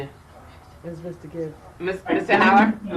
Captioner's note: faint conversation